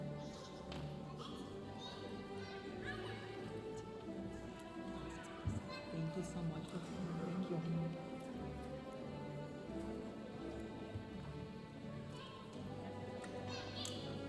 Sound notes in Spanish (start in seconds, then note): 6.0 hablando en inglés; 9.1 continúa la música majestuosa suave en el fondo